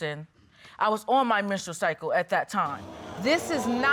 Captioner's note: audience exclaims